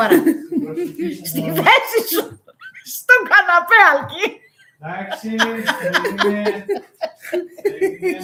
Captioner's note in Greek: γέλια